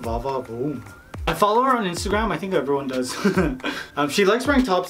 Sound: laughs

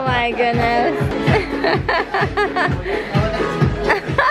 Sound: laughing

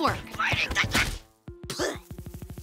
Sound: spitting

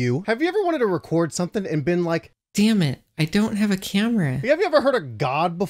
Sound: none

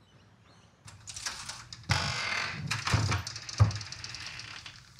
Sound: door creaks

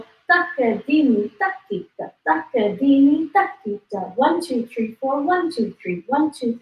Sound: counts in foreign language

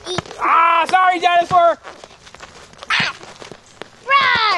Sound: voiceover

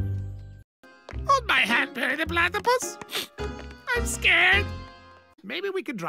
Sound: sniffles

